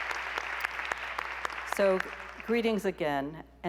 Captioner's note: applause